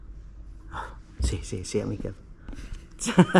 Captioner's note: laughter